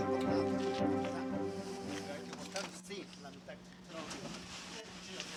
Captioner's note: men speaking Spanish